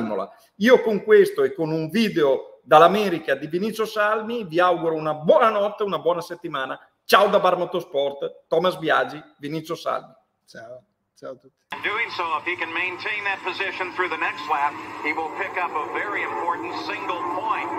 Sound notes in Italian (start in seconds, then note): 15.3 Applauso